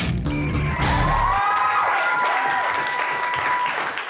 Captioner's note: crowd cheers